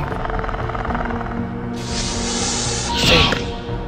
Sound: raptor Sounds

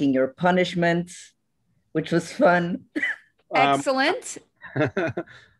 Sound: laughter

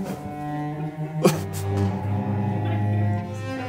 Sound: laughs

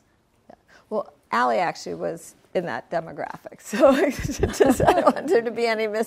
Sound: laughs

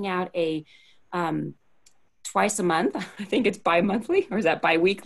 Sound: laughter

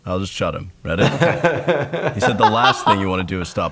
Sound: laughing

